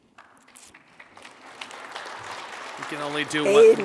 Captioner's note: attendees clapping